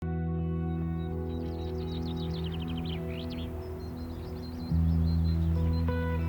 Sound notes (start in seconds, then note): 0.7 birds singing; 3.1 wind rustling